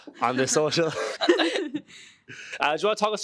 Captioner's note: all laughing